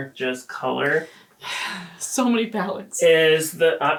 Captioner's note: sighs